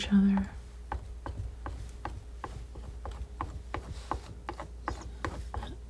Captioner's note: scraping